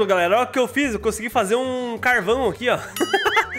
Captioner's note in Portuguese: risos